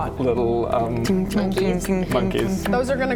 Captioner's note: ting ting ting ting ting